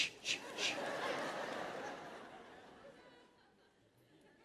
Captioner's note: laughter